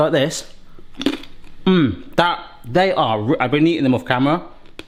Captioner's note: pasta crunching loudly